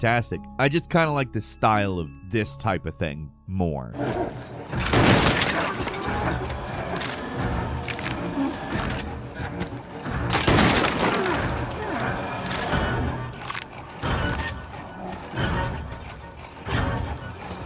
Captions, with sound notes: I just kind of like the style of this type of thing more. (gunshot) (gunshot) (suspenseful music)